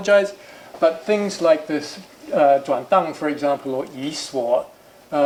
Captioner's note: speaking chinese